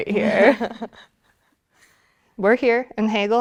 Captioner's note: laughing